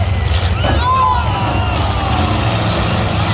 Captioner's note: engine noise, crowd noise; cars hit; crowd; engine noise, crowd noise